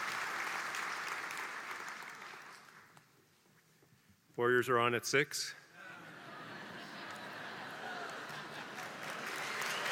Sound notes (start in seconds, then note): 0.0 applause; 5.8 laugh; 7.6 applause